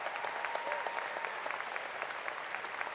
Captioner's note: applause